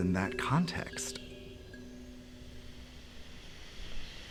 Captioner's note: water hissing